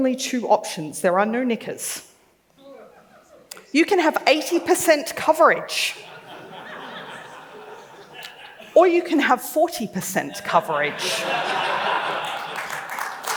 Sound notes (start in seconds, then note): 5.9 laughs